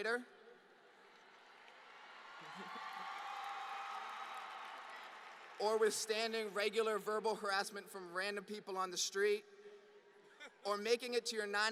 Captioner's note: applause